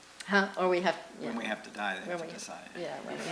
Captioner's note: voiceover; voiceover